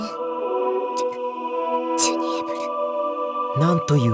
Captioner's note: hushed